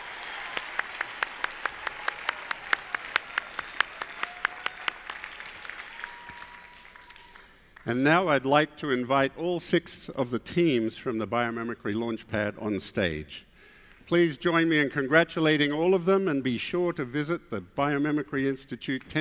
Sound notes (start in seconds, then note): 0.0 applause continuing